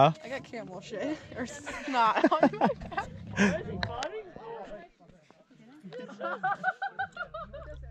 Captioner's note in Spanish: La risa